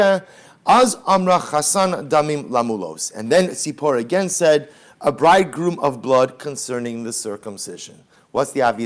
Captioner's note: Hebrew